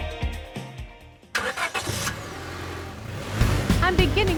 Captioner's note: engine starts, revs